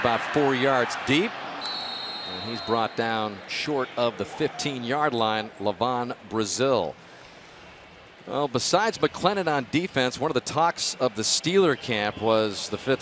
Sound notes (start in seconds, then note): 1.6 whistle